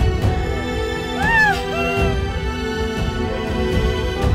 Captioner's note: Sobbing